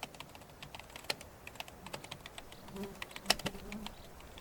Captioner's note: fly buzzes